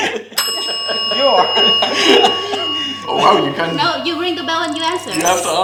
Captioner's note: rings the bell